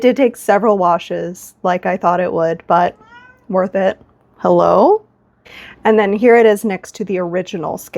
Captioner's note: meow